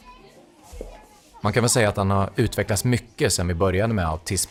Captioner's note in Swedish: Mansröst